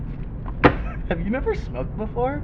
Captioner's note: glove box slams shut